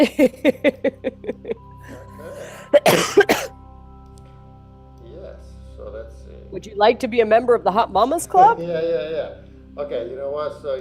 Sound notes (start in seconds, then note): 0.0 laughs; 2.6 coughs